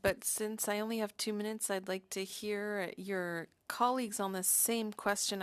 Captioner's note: speaking French